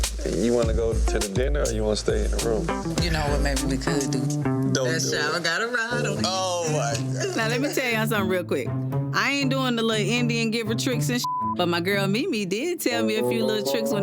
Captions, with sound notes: You want to go to the dinner or you wanna stay in the room? - You know what maybe we could do? That shower got a rod on it. - Oh my god! - Now lemme tell y'all something real quick. I ain't doing the little Indian giver tricks and (beep), but my girl, Mimi, did tell me a few little tricks